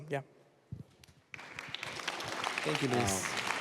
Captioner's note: applause